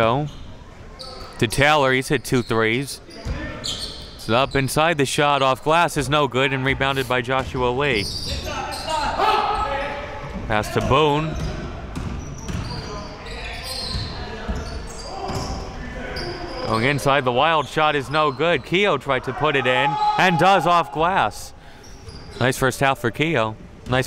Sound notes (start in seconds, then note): 19.8 yelling